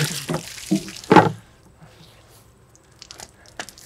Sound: water sloshing

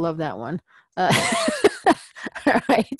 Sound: laugh

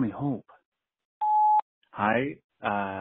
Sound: beep

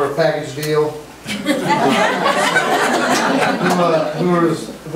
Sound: group laughs

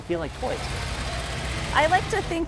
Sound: vehicle rumbling

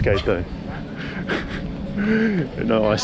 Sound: laughs

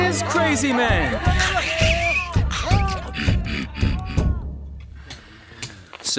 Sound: screeching and grunting

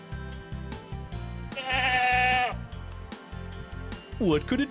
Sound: sound of a goat

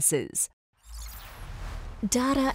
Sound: screen whooshing

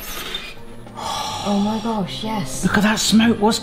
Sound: sighs

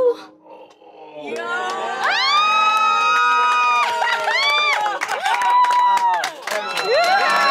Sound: group cheering

